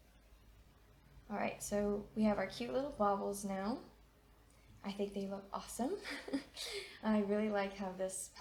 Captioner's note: chuckles